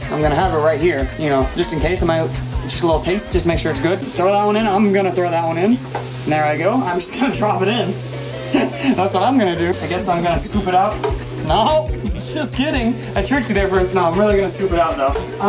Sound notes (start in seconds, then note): 8.5 struggling for air